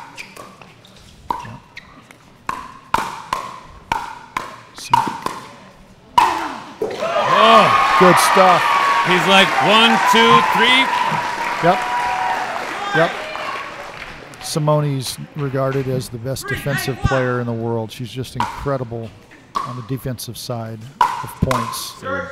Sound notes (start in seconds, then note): 0.2 ball bouncing; 6.9 audience cheering